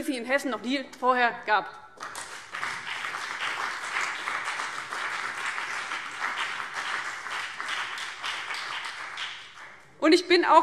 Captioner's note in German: Beifall CDU und BÜNDNIS 90/DIE GRÜNEN